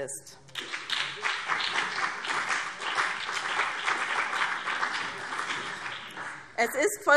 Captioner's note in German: Beifall BÜNDNIS 90/DIE GRÜNEN und CDU